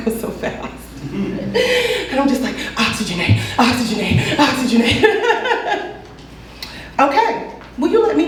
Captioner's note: laughs